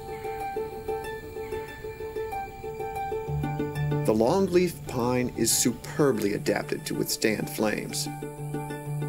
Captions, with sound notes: (Birds chirping) The longleaf pine is superbly adapted to withstand flames.